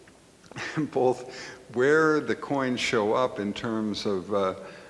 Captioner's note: laughs